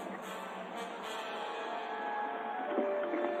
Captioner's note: horses galloping